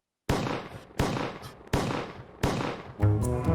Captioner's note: 4 Gunshots Fire